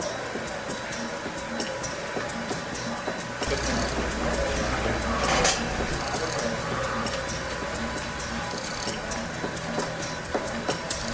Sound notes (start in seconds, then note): 2.5 upbeat music; 2.5 wheels spinning